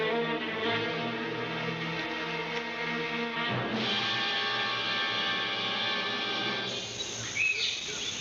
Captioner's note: birds chirping